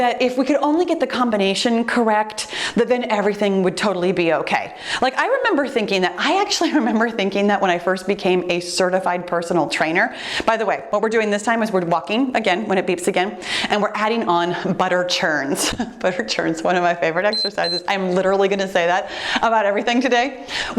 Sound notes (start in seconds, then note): 15.5 giggling; 17.2 timer beeps